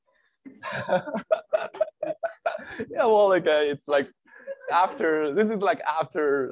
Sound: laughs

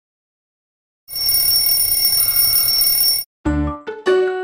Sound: alarm ringing; upbeat playful music

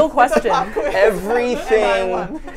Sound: laughs

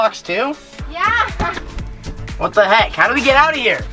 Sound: chuckling

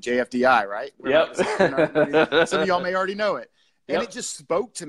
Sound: laughter

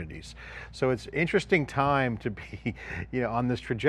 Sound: chuckles

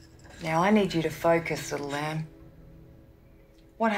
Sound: none

